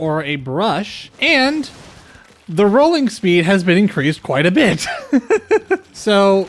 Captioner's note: laughter